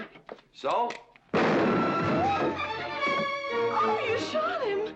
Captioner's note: gun firing; tense music